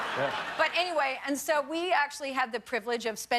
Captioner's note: laughter